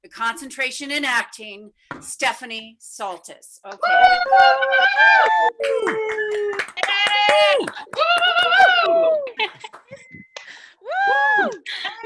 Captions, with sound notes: with a Concentration in Acting, Stephanie Saltis. Okay. [attendees applauding] [attendees cheering]